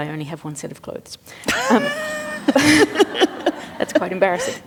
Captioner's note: laughter